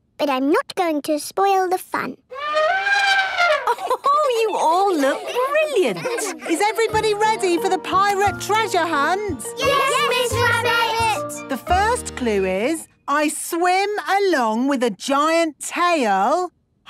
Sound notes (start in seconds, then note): 2.3 trumpeting; 2.4 Mummy Pig laughing